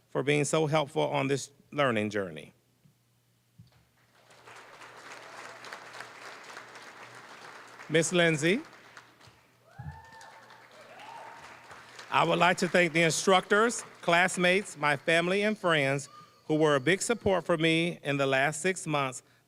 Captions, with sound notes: "for being so helpful on this learning journey." (applause) >> Ms. Lindsay. (cheering, applause) "I would like to thank the instructors, classmates, "my family, and friends, who were a big support for me "in the last six months.